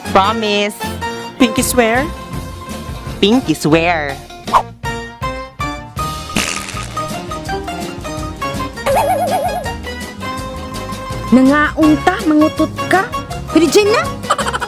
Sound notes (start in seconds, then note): 6.3 farts